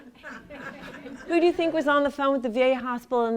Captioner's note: laughter